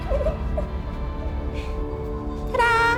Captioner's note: laughs